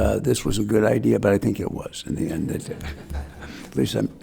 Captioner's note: attendees laughs